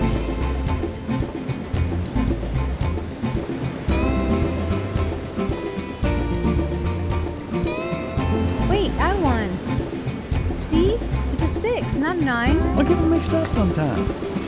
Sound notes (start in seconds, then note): none